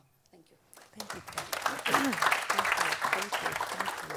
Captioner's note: audience applauds